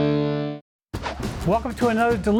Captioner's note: swish